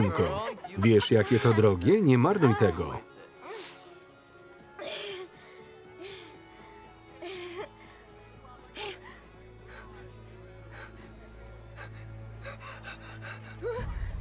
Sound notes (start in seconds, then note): 5.3 gasping; 12.4 panting rapidly